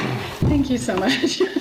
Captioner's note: laughs